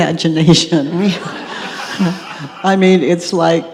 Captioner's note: audience laughs